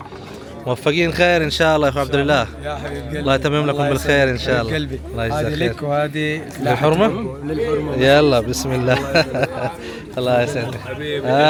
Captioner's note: Arabic